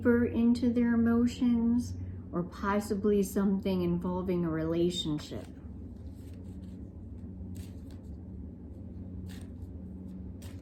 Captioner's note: cards shuffling